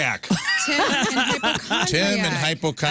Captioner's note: laughing